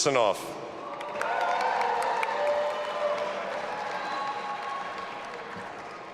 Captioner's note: audience applauding and cheering